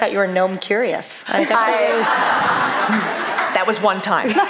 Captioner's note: laughter